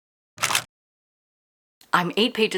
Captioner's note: camera shutter